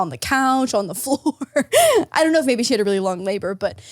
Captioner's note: laughs